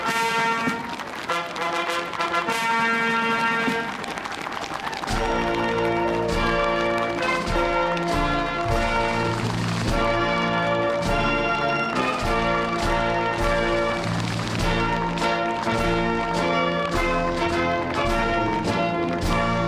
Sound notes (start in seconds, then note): 0.2 applause; 2.0 cheering